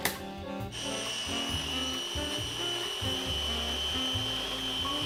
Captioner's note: blender whirs